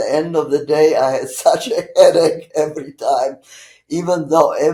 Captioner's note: laughing